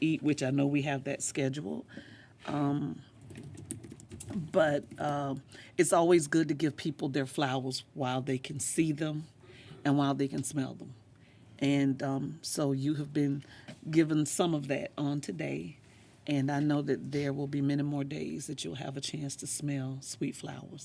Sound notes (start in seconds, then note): none